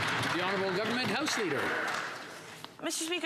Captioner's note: some Applause